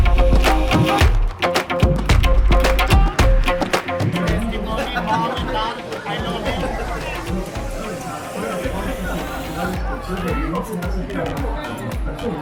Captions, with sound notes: Estebany, mom, and dad, I love you. (laughing)